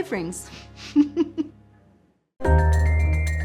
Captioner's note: laughs